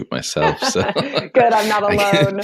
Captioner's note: laughter